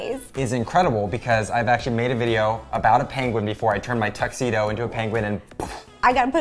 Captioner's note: poof